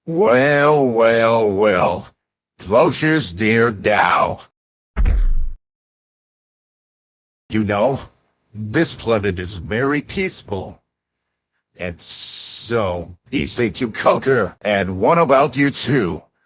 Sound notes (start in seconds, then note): 5.0 stomp